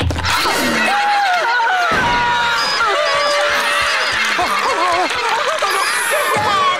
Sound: screaming

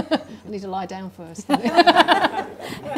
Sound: laughing; laughing

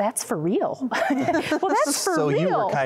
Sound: laughter

